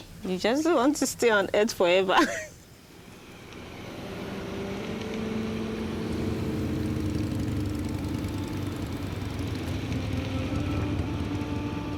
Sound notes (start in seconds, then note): 2.6 engine rumbling; 3.0 somber instrumental music